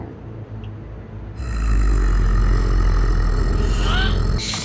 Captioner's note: werewolf growling